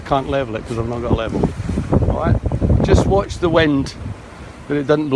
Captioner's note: bubble